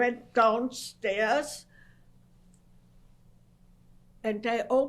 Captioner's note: pauses for 3 seconds